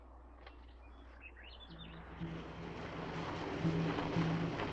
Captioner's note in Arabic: تغريد الطيور